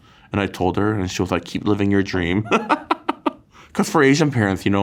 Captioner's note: laughs